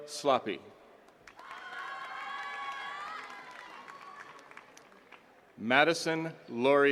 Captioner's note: attendees cheering and clapping